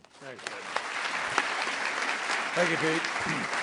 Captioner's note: applause